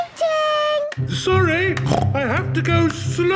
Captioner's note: snorts